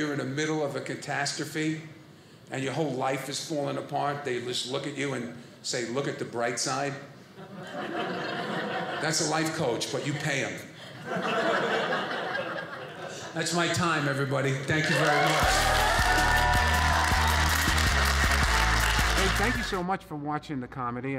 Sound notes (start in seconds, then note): 10.8 audience laughing; 14.8 audience cheering